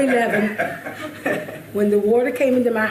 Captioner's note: chuckling